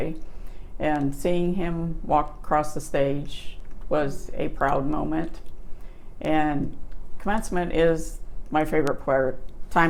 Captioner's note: none